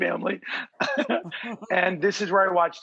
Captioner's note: laughs